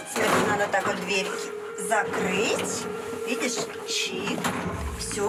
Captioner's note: door closes